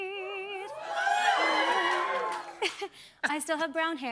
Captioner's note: cheers and applause